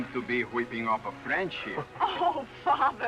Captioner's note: laughter